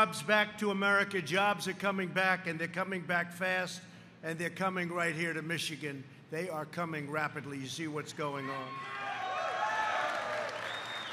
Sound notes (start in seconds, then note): 8.8 applause